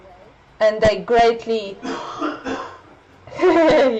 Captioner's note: dad coughing in the bg